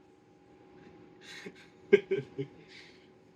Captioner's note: laughing